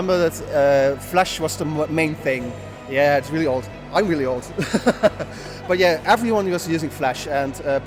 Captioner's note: both chuckle